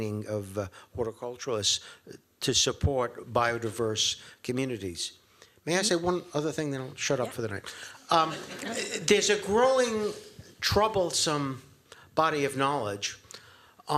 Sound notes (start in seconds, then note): 8.1 laughter